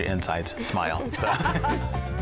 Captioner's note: laughter